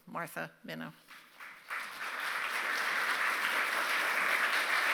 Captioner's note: applause